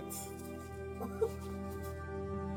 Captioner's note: laughing